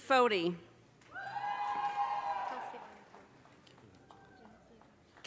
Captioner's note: audience cheers